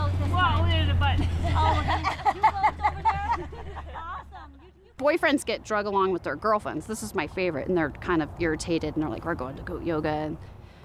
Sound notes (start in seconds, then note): 2.8 laughter